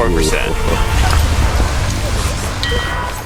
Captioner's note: laughs